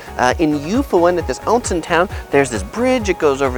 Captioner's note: speaks in foreign language